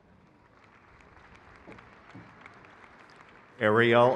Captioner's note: crowd cheers